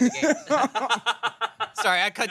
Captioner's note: everyone laughs